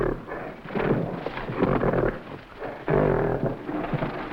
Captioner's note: gorilla grunting